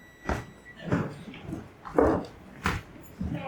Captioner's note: yelling; beeping